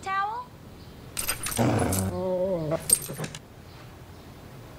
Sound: dog SFX

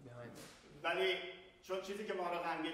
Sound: speaking in farsi

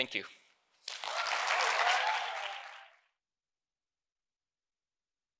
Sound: audience cheering

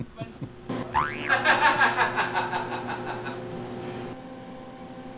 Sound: chuckling; laughing maniacally

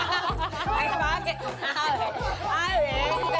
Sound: bickering

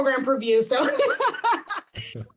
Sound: woman laughing

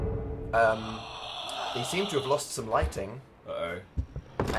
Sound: spooky Darth Vader breathing

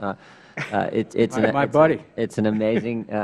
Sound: laughter

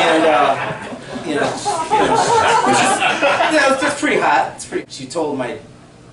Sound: laughter

